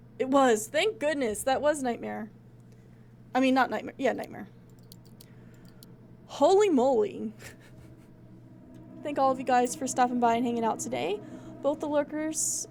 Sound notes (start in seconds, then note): 7.4 laughs